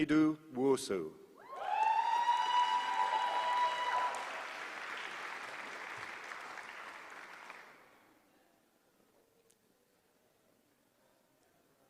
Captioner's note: applause